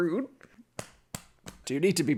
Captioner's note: sound of back slapping